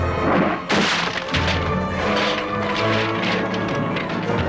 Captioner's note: table splinters